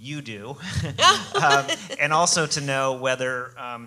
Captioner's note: laughing